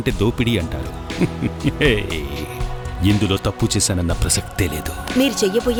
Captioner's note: laughs